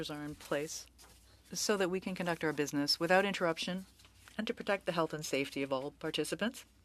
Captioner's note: speaking French